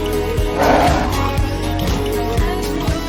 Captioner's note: gorilla cry